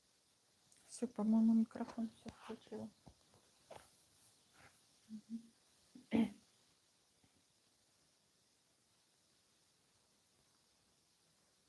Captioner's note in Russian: откашливается